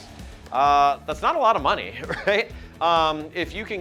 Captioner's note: chuckles